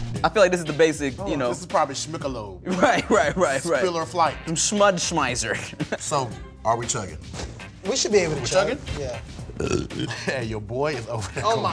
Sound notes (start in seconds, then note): 9.4 burps